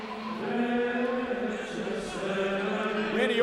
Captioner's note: group chanting